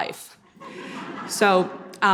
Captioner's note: audience laughing